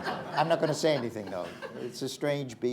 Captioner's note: laughter